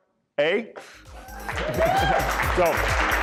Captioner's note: applause